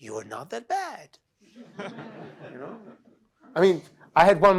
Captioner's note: laughter